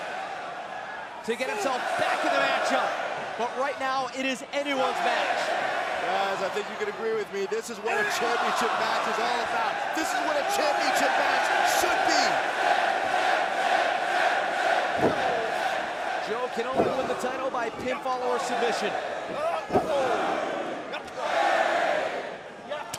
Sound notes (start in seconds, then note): 13.6 crowd cheering; 14.4 crowd chatter; 20.3 crowd cheering